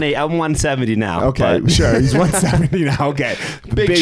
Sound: chuckling; chuckles

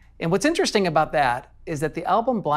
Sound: none

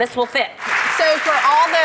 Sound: applause

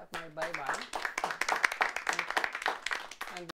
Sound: audience clapping

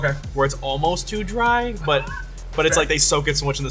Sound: laughing

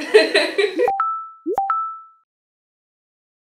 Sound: laughs; social media notifications dinging

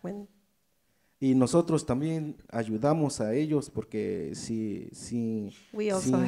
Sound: speaks in foreign language

